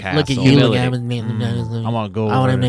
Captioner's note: murmuring